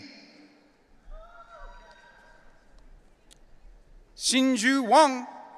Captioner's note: audience cheering